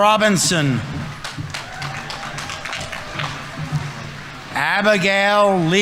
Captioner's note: audience applauding